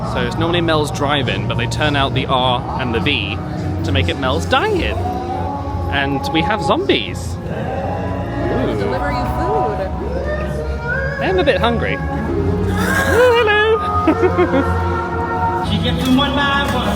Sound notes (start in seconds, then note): 12.4 zombie growls; 12.7 chuckles